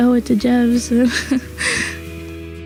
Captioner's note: laughs